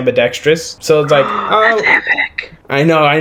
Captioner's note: gasp